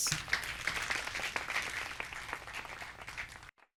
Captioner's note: audience applauds